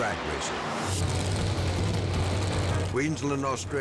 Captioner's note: engines rumbling